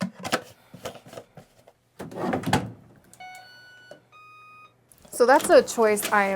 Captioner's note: my washing machine singing the song of its people